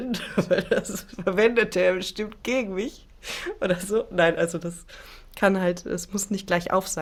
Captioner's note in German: gelächter